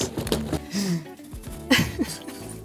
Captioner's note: laughing